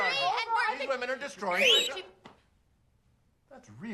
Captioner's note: whistles